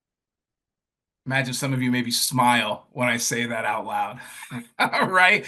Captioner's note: laughs